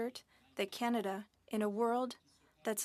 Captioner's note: speaking French